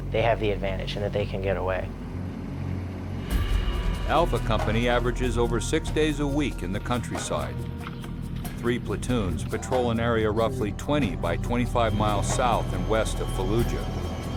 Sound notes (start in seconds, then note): 4.1 voiceover